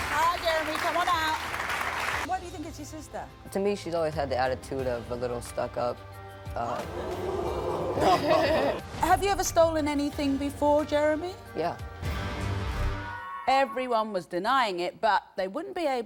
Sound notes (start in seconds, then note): 6.7 audience groans